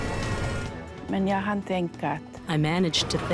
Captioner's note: speaking foreign language